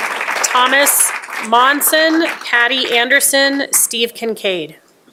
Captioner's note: applause